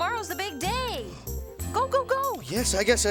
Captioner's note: gasping